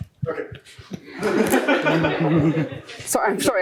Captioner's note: laughter